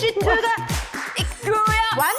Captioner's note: clap